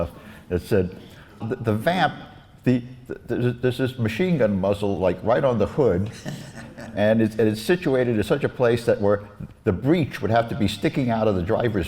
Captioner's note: laughs